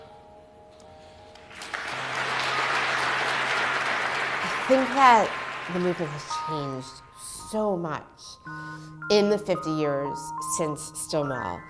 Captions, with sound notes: (audience applauds) - I think that the movement has changed so much in the 50 years since Stonewall.